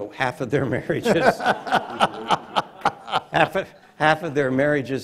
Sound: audience laughs

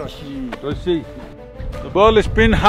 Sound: Speaks in Nepali

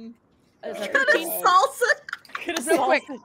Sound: laughing

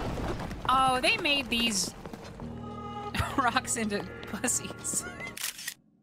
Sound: laugh

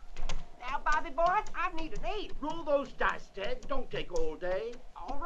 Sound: mumbling in the background

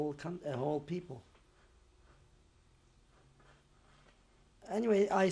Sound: pauses for 3 seconds

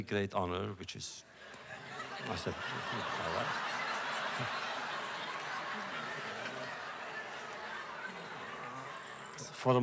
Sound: laughter

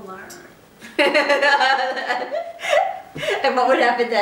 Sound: laughter

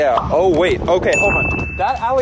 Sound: bell rings

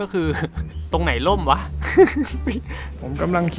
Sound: laugh

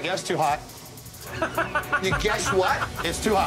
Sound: laughing

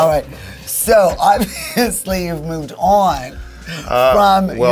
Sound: laughs

